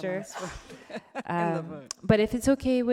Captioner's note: laughs